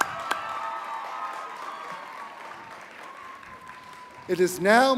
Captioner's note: applause